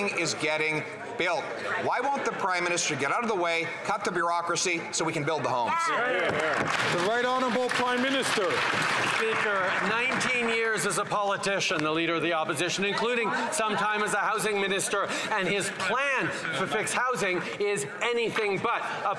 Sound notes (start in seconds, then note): 9.0 some Applause